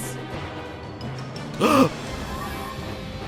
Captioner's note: signalman gasps